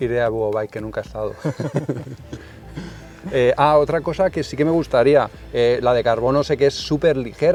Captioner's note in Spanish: risas